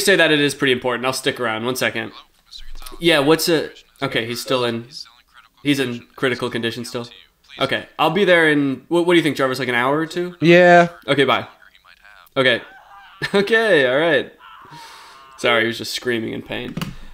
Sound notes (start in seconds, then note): 12.5 muffled screaming